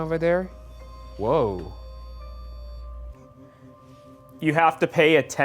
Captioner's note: REM pod beeping